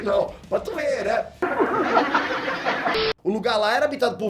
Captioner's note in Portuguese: Risada